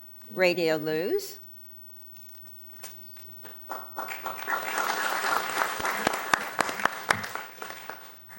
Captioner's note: applause